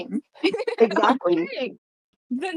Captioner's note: laughing